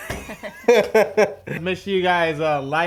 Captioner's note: laughter